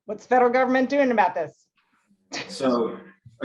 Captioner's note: laughs